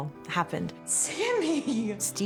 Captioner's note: chuckling